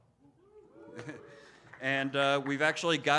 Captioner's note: audiences oohing